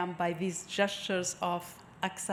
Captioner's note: none